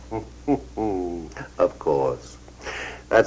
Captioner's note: Francis chuckles